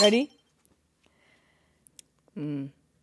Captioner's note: electric beep